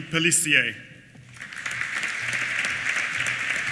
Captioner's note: applause